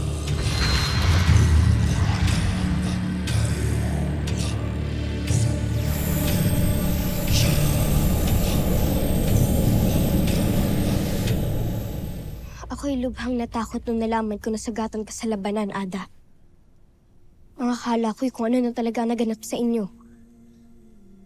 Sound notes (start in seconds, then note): 0.3 wind howling